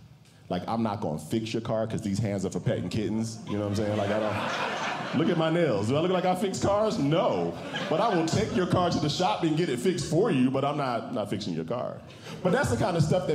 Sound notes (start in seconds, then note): 4.0 audience Laughing